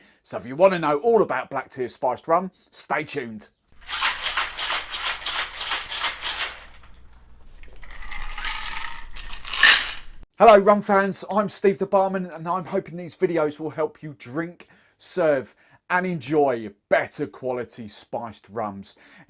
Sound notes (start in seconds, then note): 3.8 ice cubes shaking; 7.6 ice cubes clinking in cup